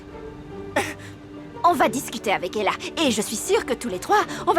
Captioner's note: chuckling